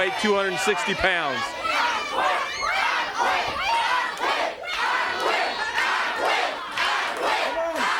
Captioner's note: crowd cheering